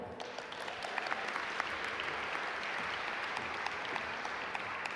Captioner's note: audience applaud